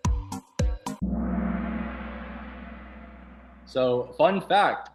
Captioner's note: gong